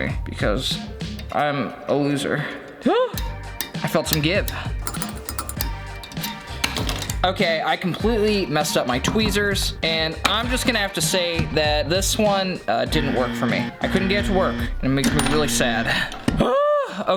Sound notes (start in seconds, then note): 4.5 gasping; 5.0 metal clicking; 12.7 buzzer sounding